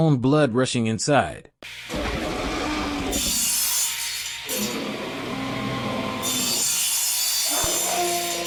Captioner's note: sound effect